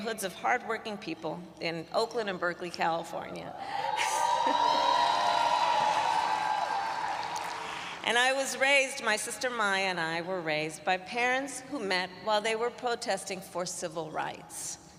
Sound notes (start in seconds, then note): 4.0 applause